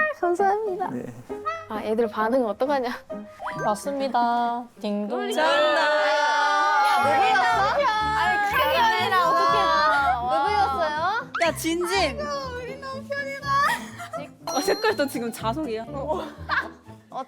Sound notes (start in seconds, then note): 5.3 extremely excited reaction